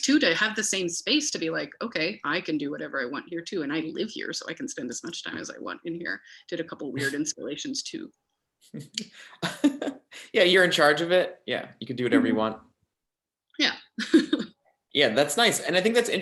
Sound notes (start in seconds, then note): 8.7 laughs; 14.1 laughs